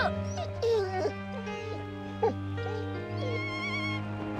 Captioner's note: Patch whining